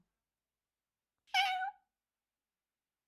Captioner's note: meow!